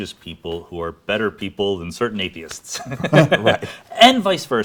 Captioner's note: laughs